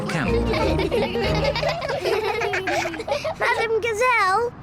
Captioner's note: all giggle